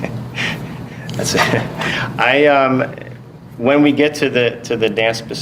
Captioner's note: laughter